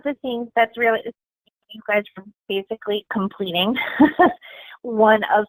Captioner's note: chuckling